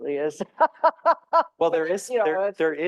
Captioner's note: laughing